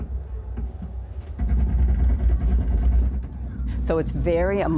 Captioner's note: muffled automatic gunfire